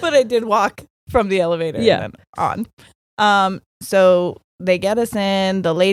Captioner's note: none